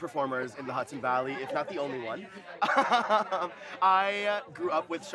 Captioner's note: laughing